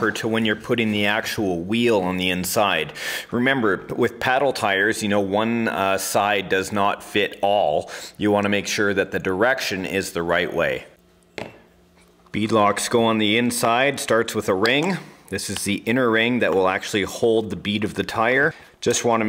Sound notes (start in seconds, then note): none